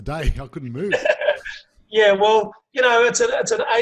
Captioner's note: laughing loudly